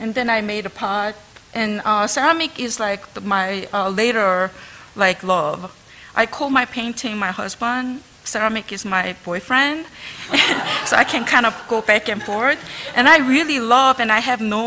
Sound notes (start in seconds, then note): 10.1 laughter